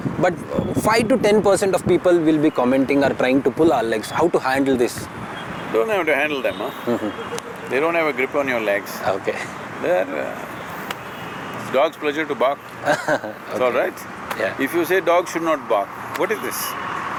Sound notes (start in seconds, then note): 10.1 laughs; 12.8 laughter